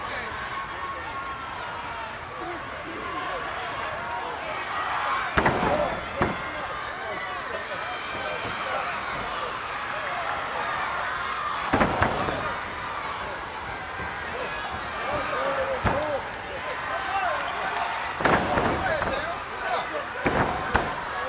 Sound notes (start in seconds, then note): 5.2 body thuds; 11.4 body thuds